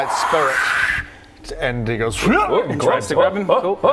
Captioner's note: hrgh